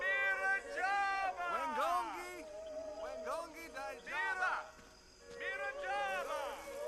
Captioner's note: shouting in foreign language